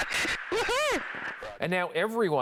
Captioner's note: laughter